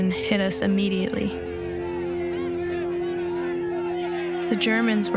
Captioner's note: voices clamoring